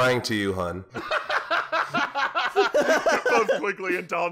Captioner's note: laughter